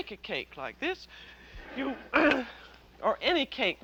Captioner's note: clears throat